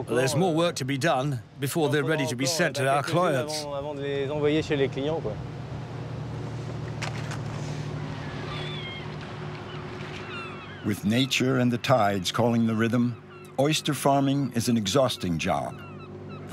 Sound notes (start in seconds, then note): 7.4 oysters clattering; 9.4 gulls squawking